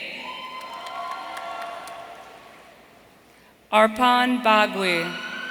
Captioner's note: audience cheering